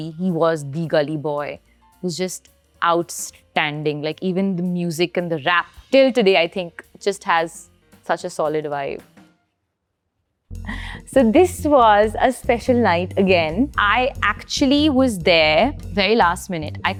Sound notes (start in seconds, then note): 9.4 lively jazz music stops; 10.6 gasps